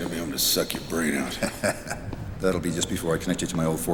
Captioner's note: laughs